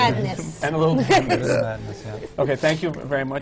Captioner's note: laughs